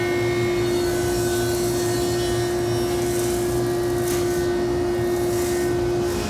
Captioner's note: machinery continues to buzz